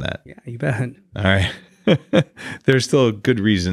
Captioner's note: laughs